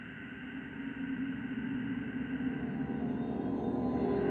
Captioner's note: wind howling